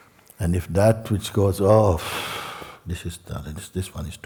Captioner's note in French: long soupir de découragement